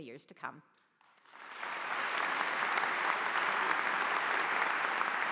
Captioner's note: audience applauding